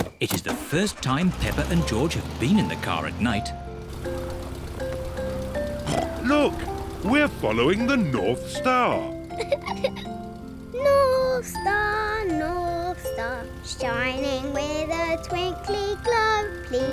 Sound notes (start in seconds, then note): 5.8 snorts; 9.3 giggles